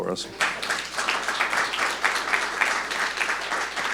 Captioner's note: audience clapping